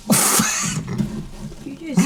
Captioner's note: laughter